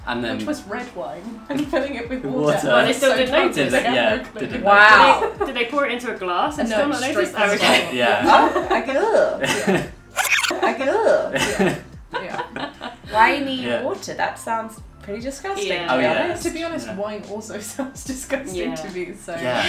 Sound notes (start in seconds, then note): 12.5 laughing